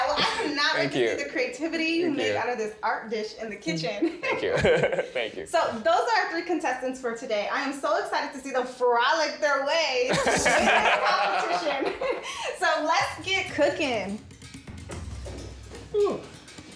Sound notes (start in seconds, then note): 10.0 men laughing